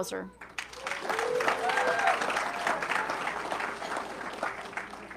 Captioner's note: audience clapping